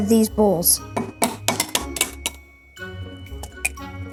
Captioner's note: eggs tapping on glass; playful music